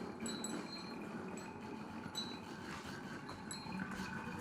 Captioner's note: chimes clattering